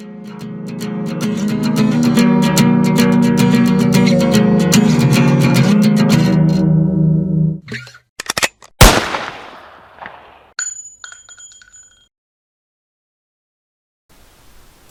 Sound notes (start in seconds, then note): 8.2 cocking of a gun; 8.8 loud gunshot; 10.5 shell casing bouncing of the floor